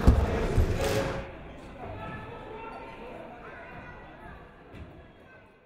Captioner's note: crowd chattering faintly